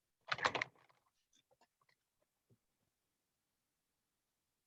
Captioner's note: keyboard typing